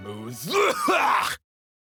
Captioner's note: cough hack